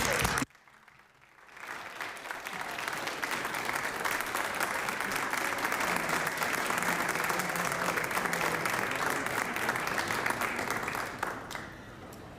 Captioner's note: applause